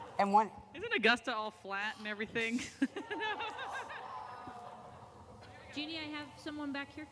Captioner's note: laughter